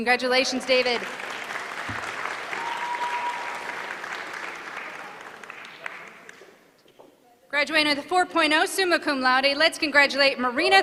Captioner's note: applause